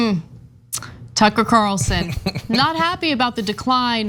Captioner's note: laugh